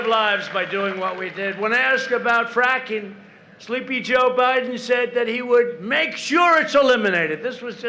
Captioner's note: applause